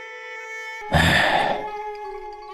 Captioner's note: sigh